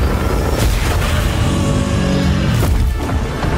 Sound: Godzilla roars; ground breaks; Godzilla and Kong roar

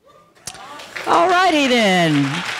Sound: audience cheering

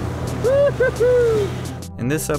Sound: man cheers

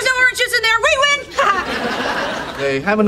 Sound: audience laughing

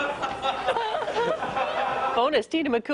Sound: laughter

